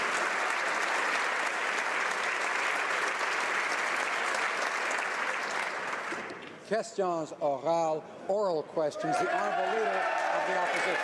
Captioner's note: applause